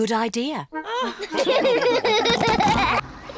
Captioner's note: all laugh; all giggling